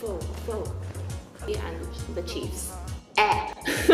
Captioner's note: retches and laughs